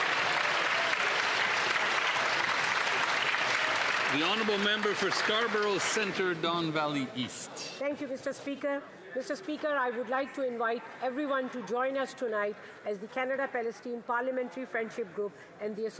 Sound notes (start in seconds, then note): 4.9 cheering and Applause